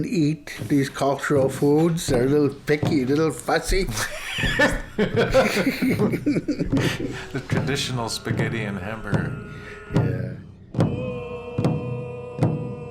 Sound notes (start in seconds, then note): 3.9 laughter; 9.8 drumming and singing